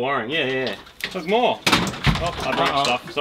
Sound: clattering

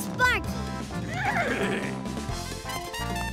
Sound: neighing

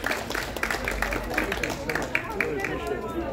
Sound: applause

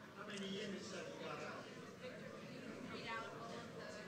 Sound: crowd muttering

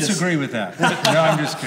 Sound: laughs

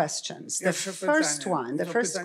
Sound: foreign language

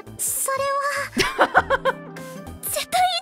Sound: chuckles

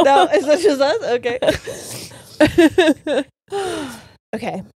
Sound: both laughing

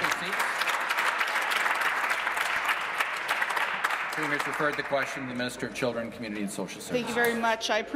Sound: applause

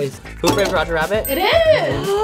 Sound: bell dings

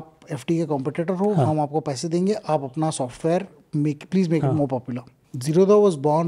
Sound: speaks in Hindi

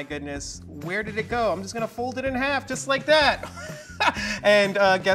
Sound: laughs

